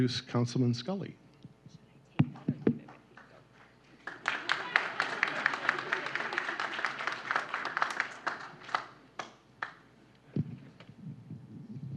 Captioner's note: applause